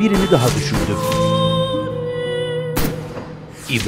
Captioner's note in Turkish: Silah sesleri